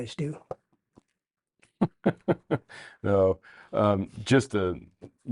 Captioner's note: laughs